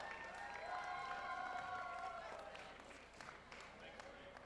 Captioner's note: cheers and applause